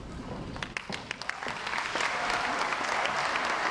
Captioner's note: crowd applauds